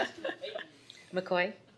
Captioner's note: group laughter